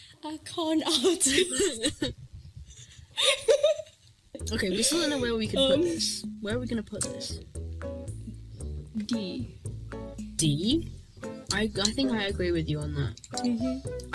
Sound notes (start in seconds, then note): 2.7 giggle sesh